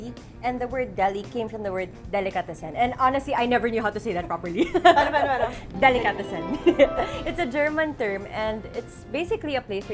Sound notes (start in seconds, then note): 4.5 laughs; 6.5 chuckles